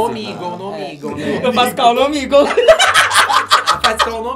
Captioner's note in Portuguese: risos